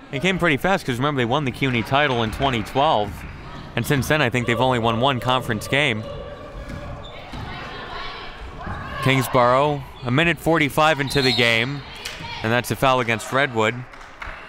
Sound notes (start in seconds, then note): 6.6 crowd murmuring; 10.9 referee blows whistle